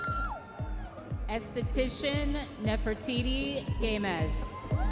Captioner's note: audience members cheering